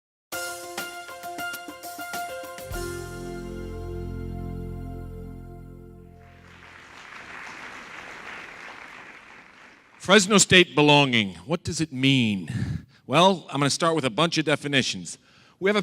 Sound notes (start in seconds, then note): 0.3 energetic music; 6.2 audience applauds